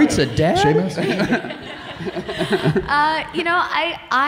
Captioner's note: laughing